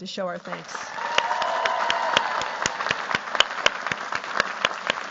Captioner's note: cheers, applause